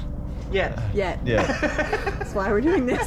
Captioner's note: laughter